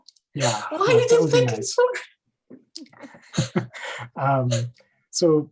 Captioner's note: laugh